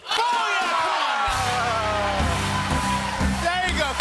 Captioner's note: cheering and applause